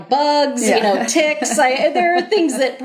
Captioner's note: laughter